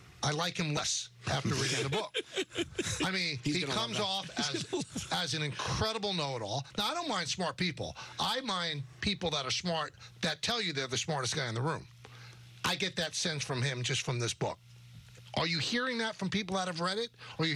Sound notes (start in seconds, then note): 5.0 laughter